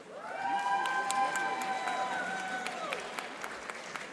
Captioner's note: audience applauding